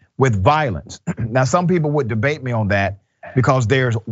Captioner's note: cough